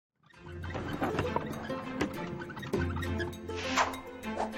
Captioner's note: wheels squeaking